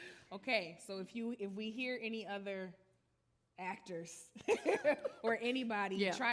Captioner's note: laughs